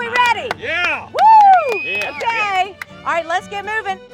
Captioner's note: clapping